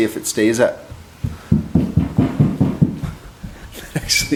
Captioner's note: stomping; laughing